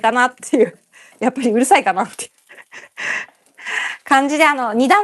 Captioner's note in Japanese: 息をのむ音